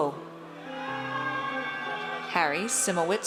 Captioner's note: audience cheers